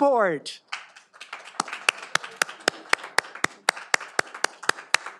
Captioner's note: all applauding